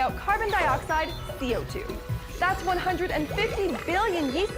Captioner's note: yeast burping